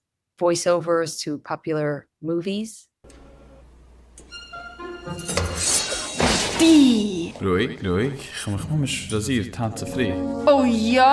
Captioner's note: Yiddish